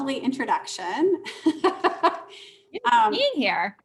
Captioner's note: laughing; murmurs